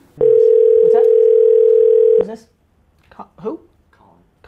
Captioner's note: static noise